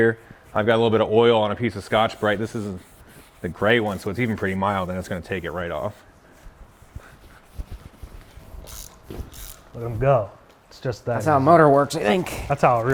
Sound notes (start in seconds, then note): 1.6 scrubber scratching; 8.6 tool clicking